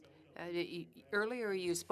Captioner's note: speaking French